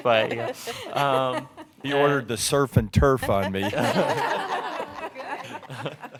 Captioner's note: laughter